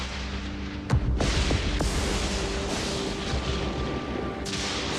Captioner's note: lightning cracking